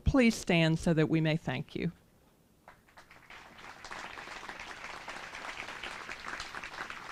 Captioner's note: applause